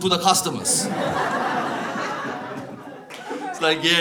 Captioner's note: audience laughs